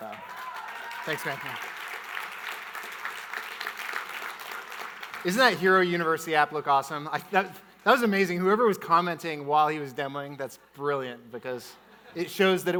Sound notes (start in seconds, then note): 0.0 audience cheering and clapping; 1.9 audience applauding